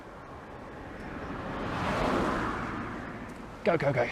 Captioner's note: car whooshing past